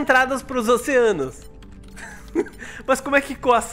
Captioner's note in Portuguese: risos